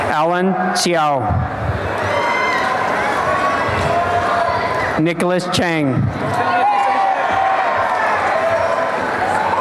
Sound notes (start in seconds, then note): 1.9 cheering; 6.4 applause and cheering